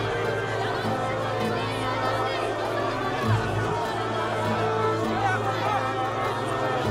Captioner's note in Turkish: Kalabalık bağrışma sesleri